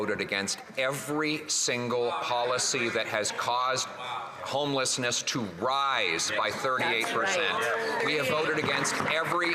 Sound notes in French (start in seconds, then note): 1.5 voix de l'interprète